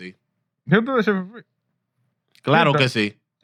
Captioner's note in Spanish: Hablando en idioma extranjero